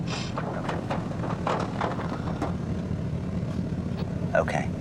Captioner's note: knocking